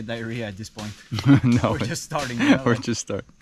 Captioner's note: chuckles